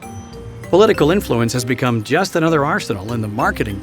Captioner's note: voiceover